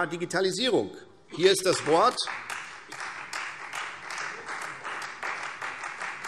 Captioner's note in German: Beifall Freie Demokraten